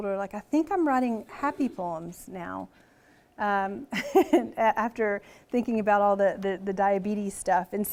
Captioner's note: laughs